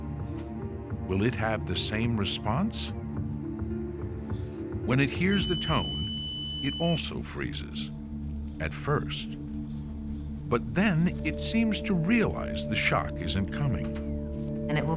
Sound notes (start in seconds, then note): 5.0 tone beeps